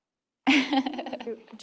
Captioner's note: laughs